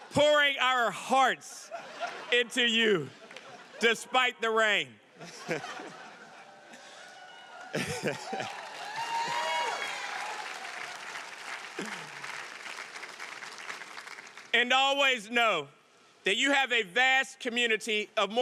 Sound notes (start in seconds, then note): 5.2 audience laughing; 8.7 audience applauding and cheering